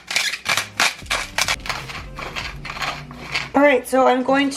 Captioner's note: cracking